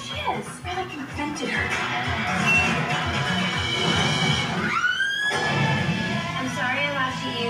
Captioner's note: screaming